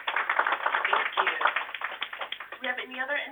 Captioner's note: applause